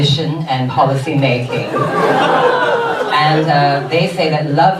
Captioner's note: audience laughs